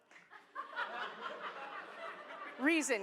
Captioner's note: laughter